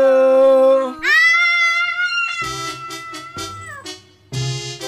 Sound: screams

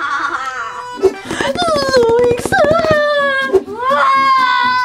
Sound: evil laugh; screams

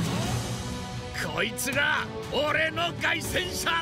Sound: in japanese

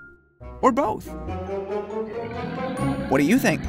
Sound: roars

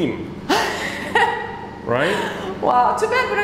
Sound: chuckles

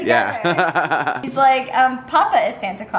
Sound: laughs

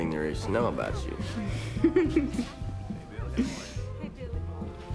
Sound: laughs

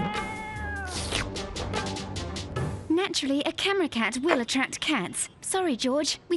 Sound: cat meowing; cat slurping

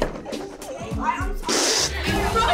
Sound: spraying

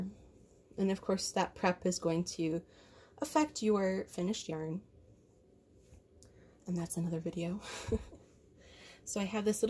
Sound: chuckles

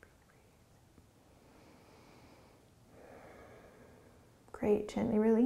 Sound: breathing

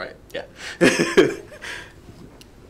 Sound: laughs

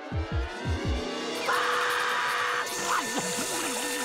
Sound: screaming

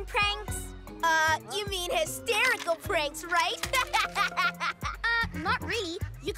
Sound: laughing

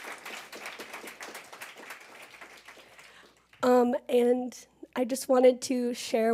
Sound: applause

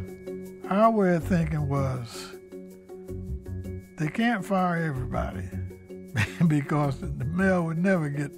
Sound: laughs

